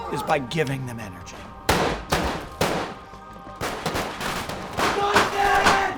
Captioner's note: gun shooting